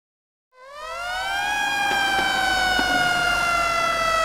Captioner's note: sirens wailing